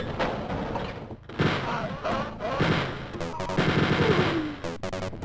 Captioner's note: death-dealing machine sound